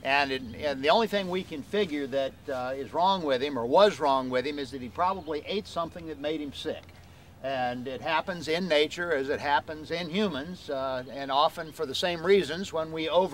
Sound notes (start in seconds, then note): none